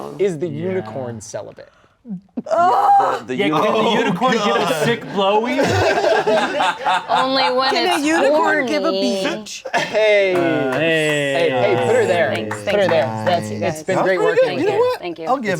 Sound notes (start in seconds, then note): 5.4 everyone laughing